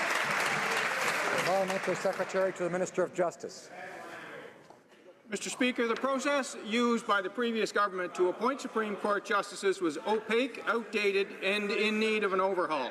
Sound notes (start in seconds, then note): 2.9 applause